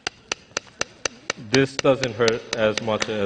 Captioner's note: tapping sound